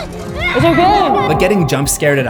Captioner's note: kid screaming